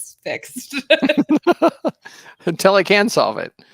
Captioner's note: laughing